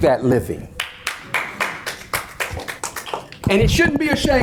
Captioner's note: audience members applaud